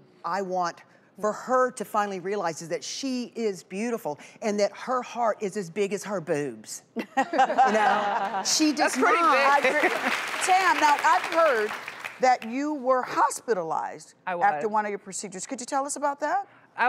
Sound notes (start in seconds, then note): 7.2 laughing; 8.2 audience applauds